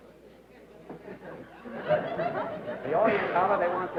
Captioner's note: laughter